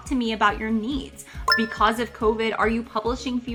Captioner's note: retro gaming beep sound